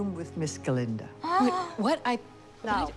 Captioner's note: gasps